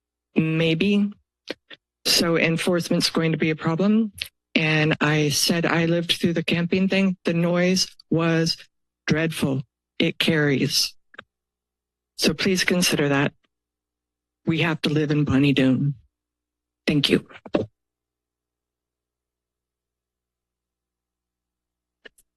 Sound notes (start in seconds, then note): 11.1 pause; 17.5 silence